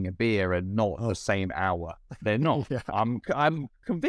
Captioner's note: laughter